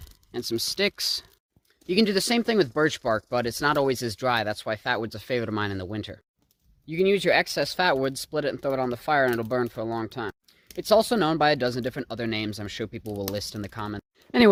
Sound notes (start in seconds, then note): none